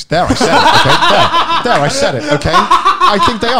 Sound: men laughing

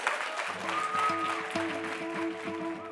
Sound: applause

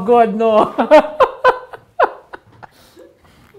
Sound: laughing

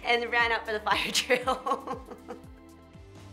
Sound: laughs; drumbeats

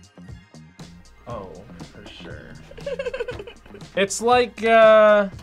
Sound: laughs

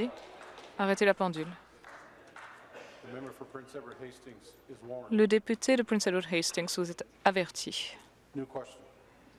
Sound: applause

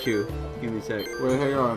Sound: beep beep

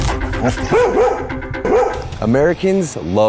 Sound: energetic music; dog barking

